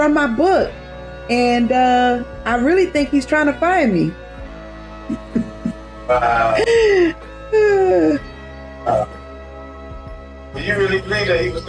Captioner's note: laughs